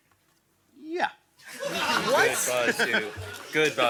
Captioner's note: crowd